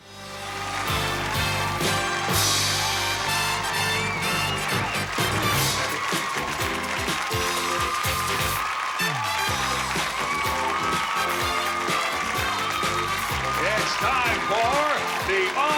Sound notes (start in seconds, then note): 0.4 theme music playing; 3.2 applause and cheers